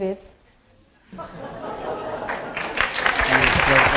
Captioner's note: laughter; applause